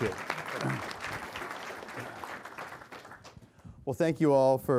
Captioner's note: applause